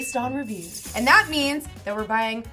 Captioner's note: bats squealing